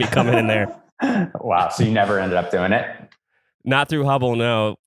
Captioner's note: laughs